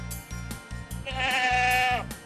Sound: sound of a goat

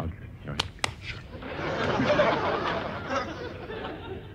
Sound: slap, slap

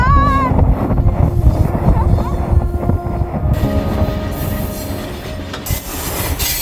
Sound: relaxing music; train screeching

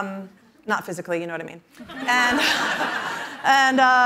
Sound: laughter

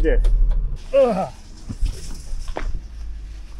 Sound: grunts

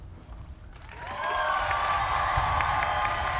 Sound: applause

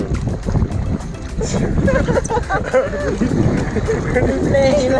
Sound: laughing

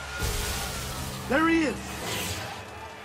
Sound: explosion

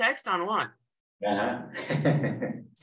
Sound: chuckles

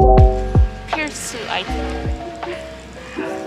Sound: speaking in Korean

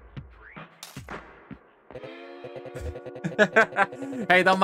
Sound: chuckles

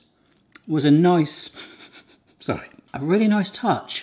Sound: laughs

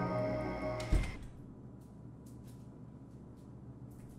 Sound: door closing

